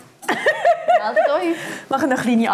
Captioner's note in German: lacht